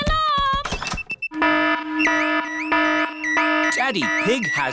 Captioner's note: alarm blaring